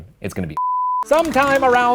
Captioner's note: beeping